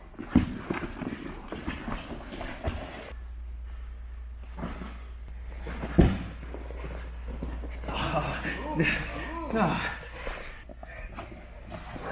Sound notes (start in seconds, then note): 7.7 breathes heavily